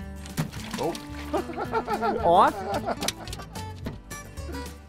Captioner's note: laughing